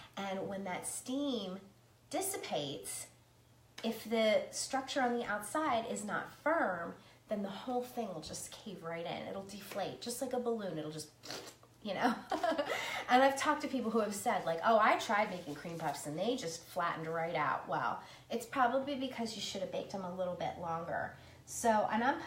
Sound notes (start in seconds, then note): 11.5 blowing raspberry; 13.4 laughs